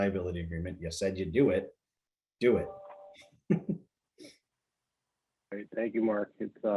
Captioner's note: chuckles